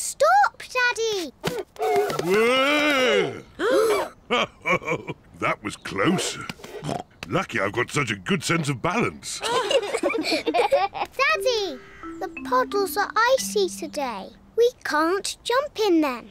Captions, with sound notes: -Stop, Daddy! -Wuurgh! -(ALL GASP) -(CHUCKLES) That was close. (SNORTS) Lucky I've got such a good sense of balance! (ALL GIGGLE) Daddy. The puddles are icy today. We can't jump in them.